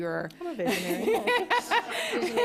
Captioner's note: laughter